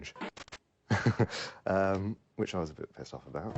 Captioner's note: chuckles